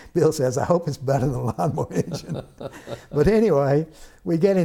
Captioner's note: laughter